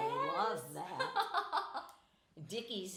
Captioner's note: laughing